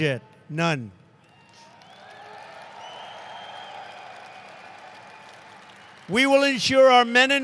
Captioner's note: applause